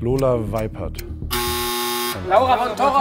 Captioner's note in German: Buzzer